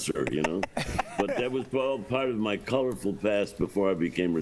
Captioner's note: laughter